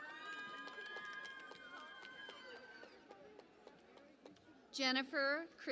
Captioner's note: cheering and Applause